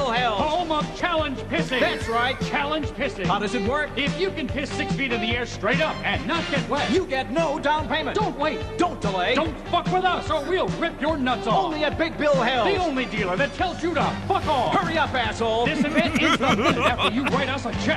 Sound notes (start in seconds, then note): 15.6 mark starts laughing